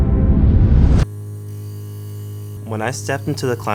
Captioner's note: music stops; interference